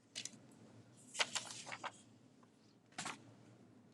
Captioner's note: paper rustling